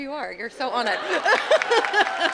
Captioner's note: laugh; applause